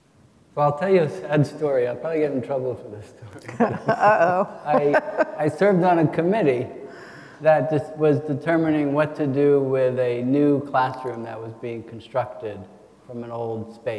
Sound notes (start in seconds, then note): 4.6 chuckles; 4.7 attendees chuckle